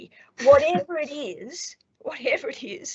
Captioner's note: laughs